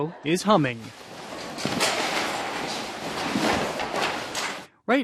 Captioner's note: objects rustling